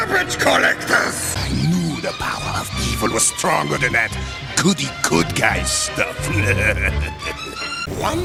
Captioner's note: chuckles